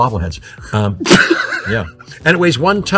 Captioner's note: laughing